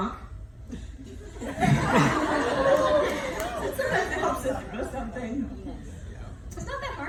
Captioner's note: laughing